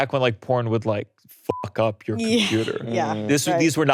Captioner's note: beeps